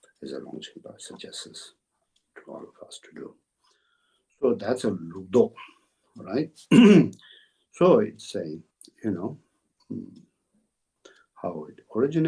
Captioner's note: tibetan